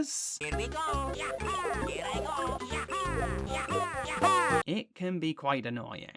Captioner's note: Constant Luigi Vocalisations